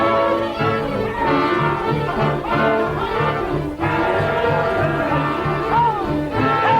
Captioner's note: rousing suspenseful orchestral music; drum beating; group yelling